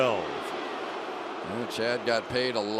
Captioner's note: booing